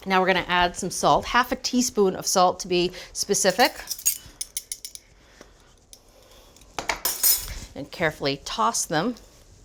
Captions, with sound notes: Now we're gonna add some salt, half a teaspoon of salt to be specific. (teaspoon tapping) And carefully toss them.